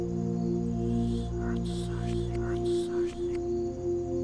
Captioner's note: ominous whispers